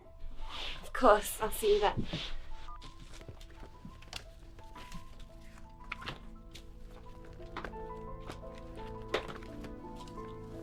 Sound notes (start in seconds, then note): 0.2 eerie piano music; 2.4 phone beeps; 3.4 eerie piano music